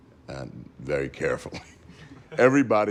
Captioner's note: chuckles